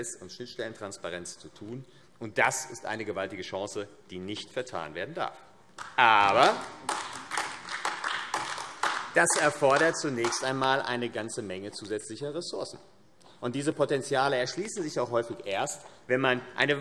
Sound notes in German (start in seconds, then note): 5.8 Beifall AfD